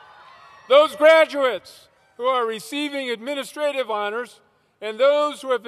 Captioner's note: cheers